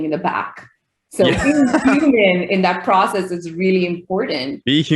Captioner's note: laughing